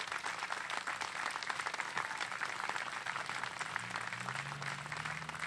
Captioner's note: applause